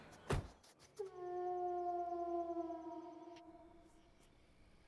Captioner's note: truck door closes; wolf howling